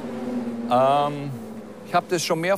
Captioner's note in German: Ferne Motorengeräusche